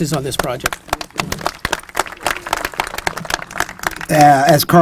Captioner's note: applause